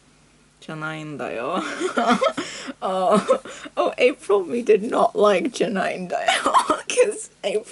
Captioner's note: laughs